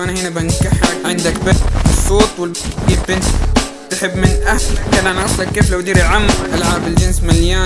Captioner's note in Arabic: ك ههه